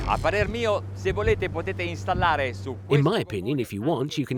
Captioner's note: speaking foreign language